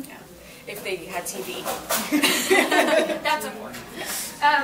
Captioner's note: group laughs